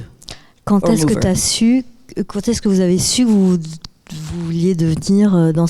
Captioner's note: speaking in French